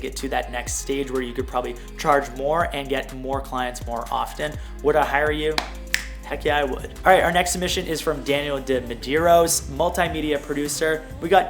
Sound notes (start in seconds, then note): 5.5 snap